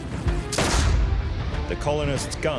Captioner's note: pistol fires